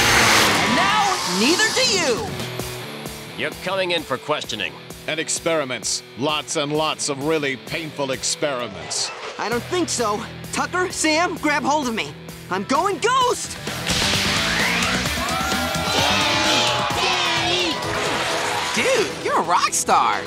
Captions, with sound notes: And now, neither do you! You're coming in for questioning. And experiments. Lots and lots of really painful experiments. I don't think so. Tucker, Sam, grab hold of me. I'm going ghost! [cheering] Danny! Danny! Dude, you're a rock star!